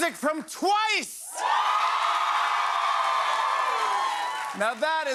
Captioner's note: cheers and applause